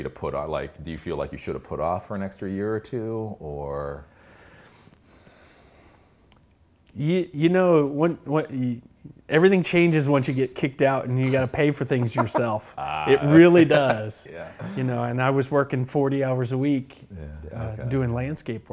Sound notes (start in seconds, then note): 14.8 laughs